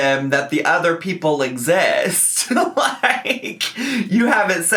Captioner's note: laughs